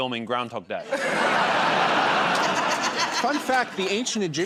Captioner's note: laughter